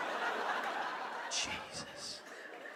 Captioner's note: EN, whispers